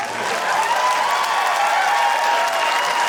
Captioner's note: cheering, applause